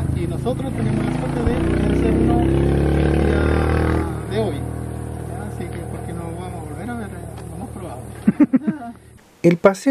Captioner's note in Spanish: risas